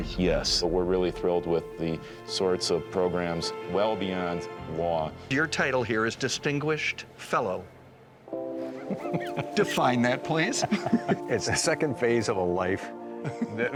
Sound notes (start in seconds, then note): 10.5 chuckling